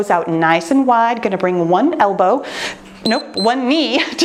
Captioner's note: timer beeps